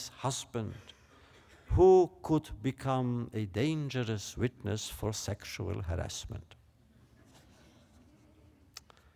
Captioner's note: laughter